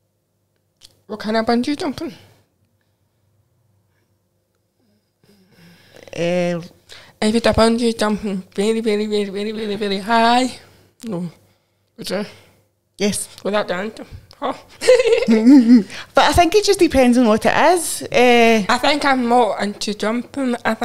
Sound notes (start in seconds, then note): 14.7 laughs; 14.7 chuckles